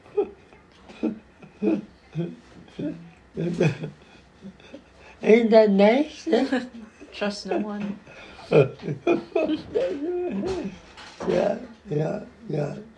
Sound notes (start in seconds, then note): 9.0 <both laughing>